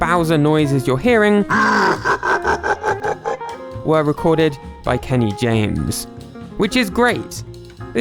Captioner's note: Bowser laugh